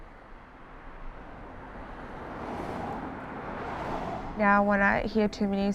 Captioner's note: cars driving past